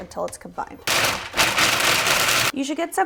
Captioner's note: food processor rattles